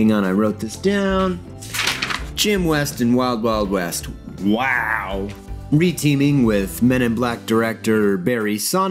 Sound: papers flipping

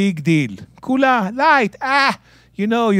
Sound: speaking in Hebrew

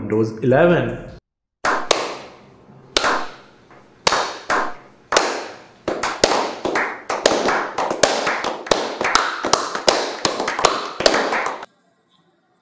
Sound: claping

